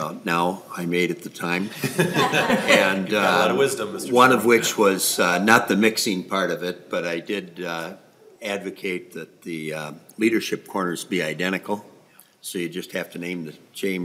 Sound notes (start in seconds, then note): 8.8 laughing